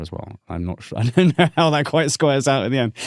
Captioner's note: laughing